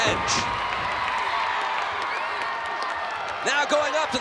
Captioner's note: crowd cheering